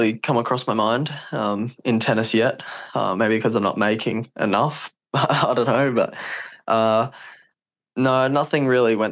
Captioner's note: laughs